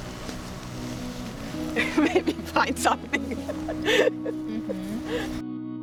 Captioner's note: laughing